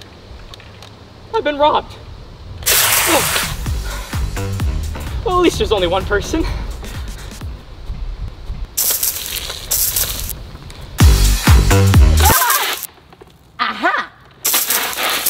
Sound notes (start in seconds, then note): 2.6 water spraying; 8.7 water spraying; 11.0 upbeat music; 12.1 water spraying